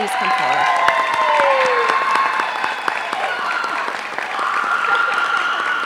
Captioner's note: applause